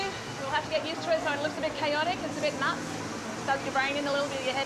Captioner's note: none